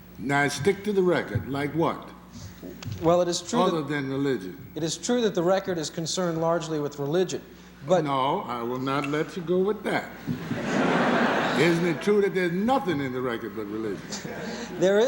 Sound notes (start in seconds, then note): 10.3 laughter